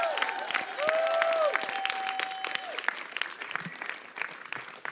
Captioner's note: applause